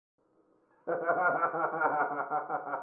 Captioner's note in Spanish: risas